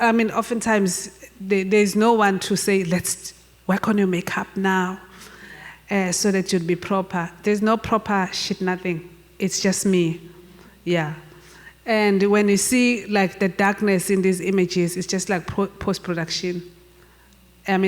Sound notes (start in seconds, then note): none